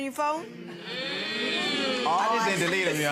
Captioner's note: audience oohs